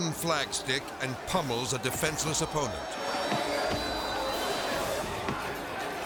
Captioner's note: stick thumping